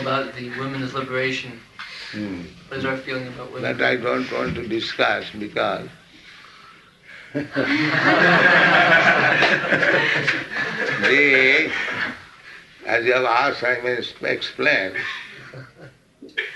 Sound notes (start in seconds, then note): 7.4 laughs; 10.1 laughter